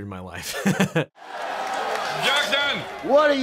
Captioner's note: crowd cheering